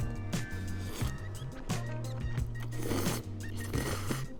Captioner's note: upbeat music; slurping noodles